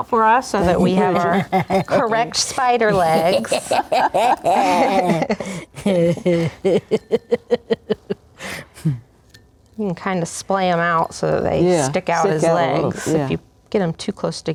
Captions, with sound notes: so that we have our correct spider legs. (laughing) You can kind of splay them out so that they stick out the legs, if you get them too close together,